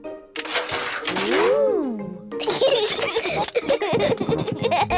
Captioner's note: giggling